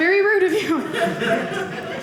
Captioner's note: audience laughing